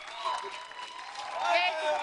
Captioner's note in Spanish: aplausos